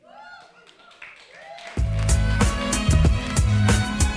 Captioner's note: audience cheering; upbeat music